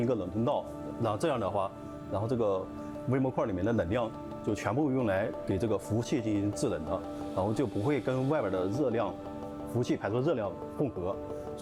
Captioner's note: speaking chinese